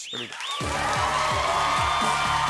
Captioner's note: cheering, whistling, and applause